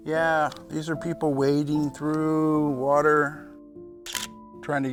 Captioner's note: camera shutter clicks